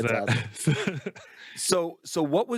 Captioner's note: laughs